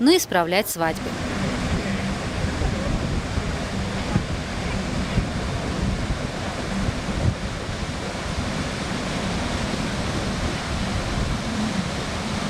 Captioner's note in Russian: шум водопада